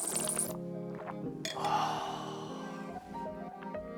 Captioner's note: slurps; gasps